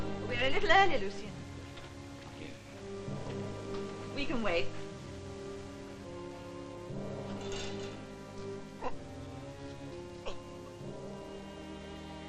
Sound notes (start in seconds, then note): 8.5 groaning